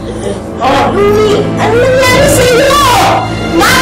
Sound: groaning

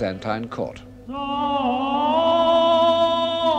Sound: chanting continues

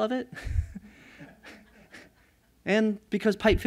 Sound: laughter

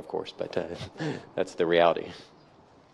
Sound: chuckles

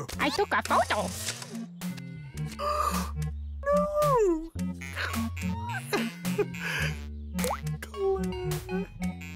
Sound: gasps

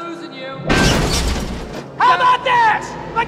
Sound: crashes to the ground

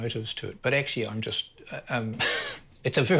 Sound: laughs

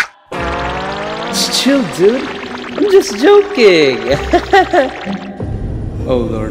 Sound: laughs

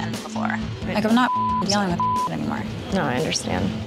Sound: beep

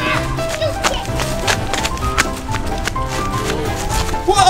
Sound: kids yelling

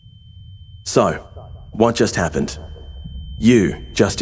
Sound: high pitched tone; voice echoes

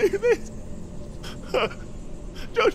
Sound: weeping

